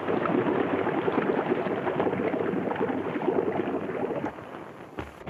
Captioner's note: water splashes and bubbles